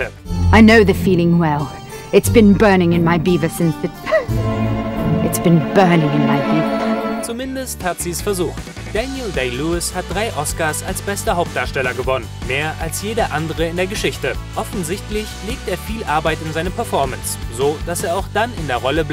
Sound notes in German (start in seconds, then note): 4.0 hahah